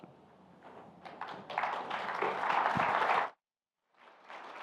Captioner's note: applause